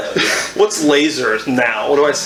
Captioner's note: laughs